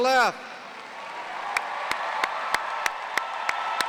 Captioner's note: applause